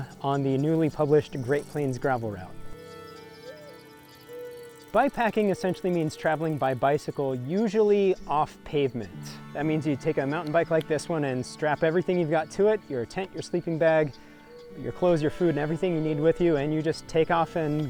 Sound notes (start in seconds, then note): 2.1 bird cooing